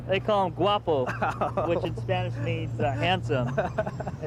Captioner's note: laughing